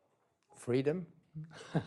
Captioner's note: laughs